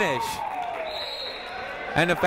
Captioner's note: whistle tweeting